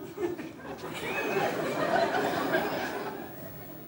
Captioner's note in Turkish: Kahkaha sesleri